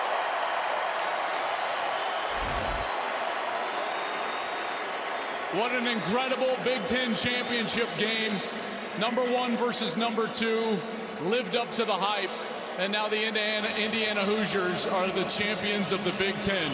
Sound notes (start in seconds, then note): 4.0 cheers and applause